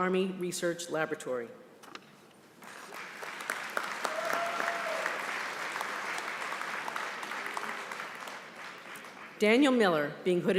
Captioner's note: applause